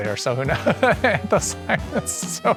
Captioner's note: laughing